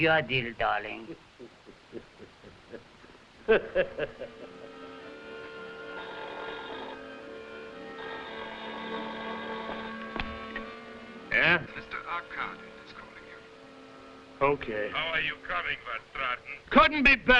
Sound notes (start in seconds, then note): 0.9 laughing; 6.2 phone ringing